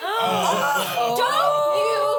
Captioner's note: everyone gasps